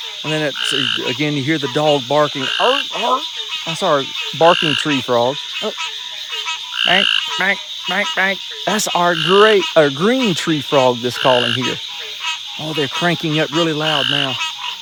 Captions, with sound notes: And then again, you hear the dog barking. (barking) That's our Barking tree frog. (making frog call) That's our Green tree frog that's calling here. Oh, they're cranking up really loud now.